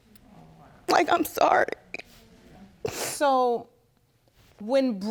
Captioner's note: sniffling